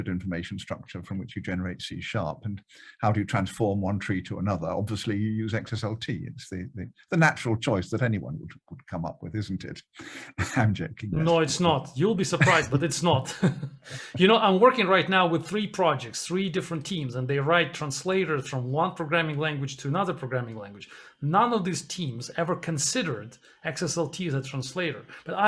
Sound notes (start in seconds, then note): 10.0 chuckles; 12.2 laughs